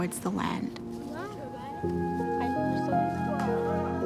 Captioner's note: children chatter